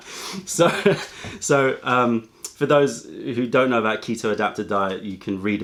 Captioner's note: laughter